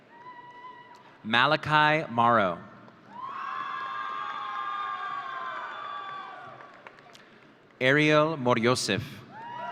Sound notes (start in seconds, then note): 3.1 audience cheering